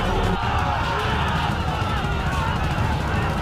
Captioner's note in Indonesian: berteriak